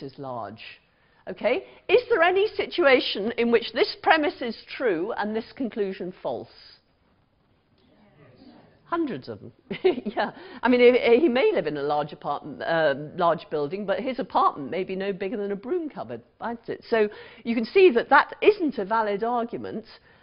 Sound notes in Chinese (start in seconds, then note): 7.2 無聲